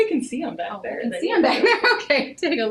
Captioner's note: laughing